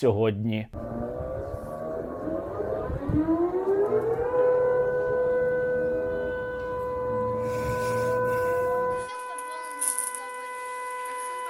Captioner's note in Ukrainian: лунає сигнал повітряної тривоги